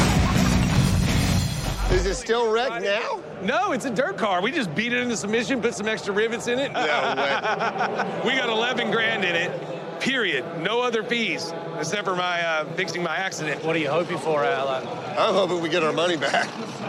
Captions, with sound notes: [ LAUGHS ] -IS IT STILL WRECKED NOW? -NO, IT'S A DIRT CAR. WE JUST BEAT IT INTO SUBMISSION, PUT SOME EXTRA RIVETS IN IT. [ LAUGHS ] -NO WAY. WE GOT 11 GRAND IN IT, PERIOD, NO OTHER FEES EXCEPT FOR FIXING MY ACCIDENT. WHAT ARE YOU HOPING FOR OUT OF IT? I'M HOPING WE GET OUR MONEY BACK. [ CHUCKLES ]